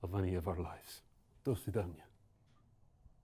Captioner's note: toasts in Russian